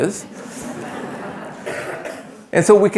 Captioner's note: attendees laughing